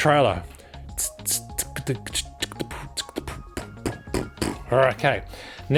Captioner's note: yet more beatboxing